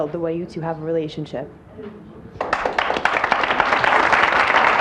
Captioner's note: audience applauds